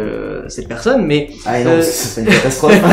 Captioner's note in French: Rires